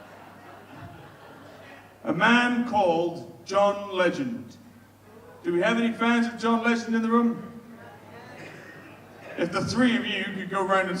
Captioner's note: audience quietly agrees